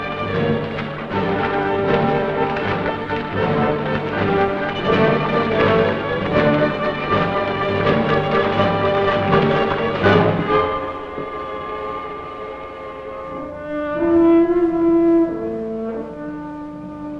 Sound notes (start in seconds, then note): 6.6 dramatic music; 6.6 footsteps sloshing